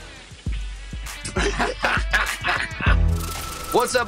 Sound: laughing

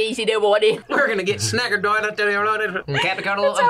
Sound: speaks gibberish; as Boomhauer; speaks gibberish

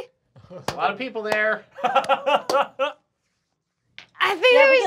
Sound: laughing

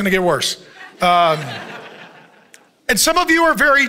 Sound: congregation chuckles

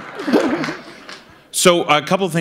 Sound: laughter; applause

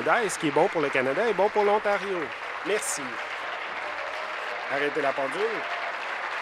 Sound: applause

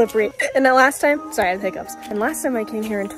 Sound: hiccups

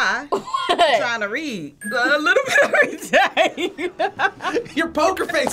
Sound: laughs

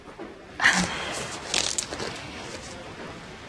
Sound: laughs

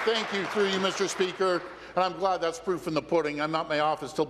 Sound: applause

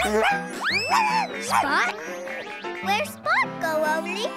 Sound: whining

